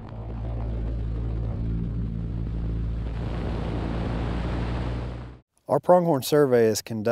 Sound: airplane flyover noise

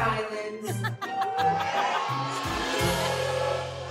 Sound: crowd booing

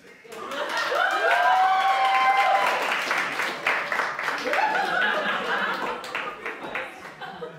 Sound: applause

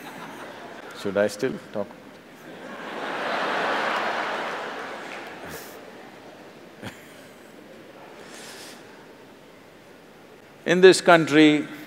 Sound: laughter

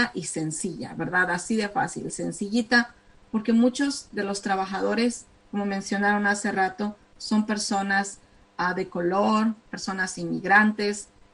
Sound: speaking spanish

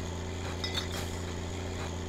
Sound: bottles clatter

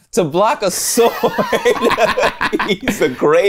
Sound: laughing

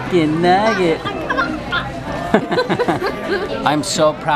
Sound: laughter

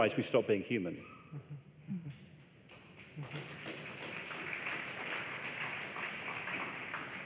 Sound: applause

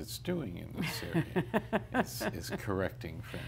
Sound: laughs

